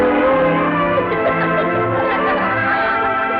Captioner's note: laughter